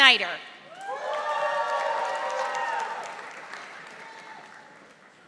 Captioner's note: audience applauding